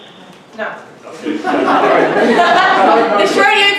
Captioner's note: laughter